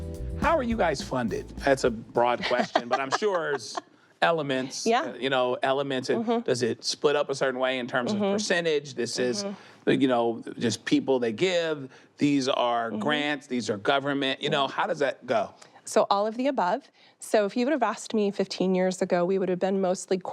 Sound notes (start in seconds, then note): 2.3 laughs